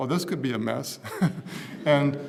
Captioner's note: laugh